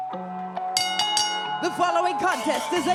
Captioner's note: bell rings